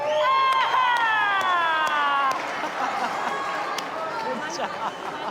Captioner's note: crowd cheering and clapping